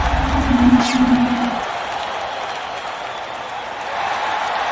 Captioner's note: crowd cheering